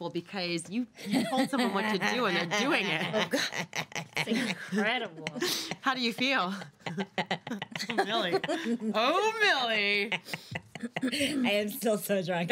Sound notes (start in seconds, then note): 1.0 girls laughing; 7.6 still laughing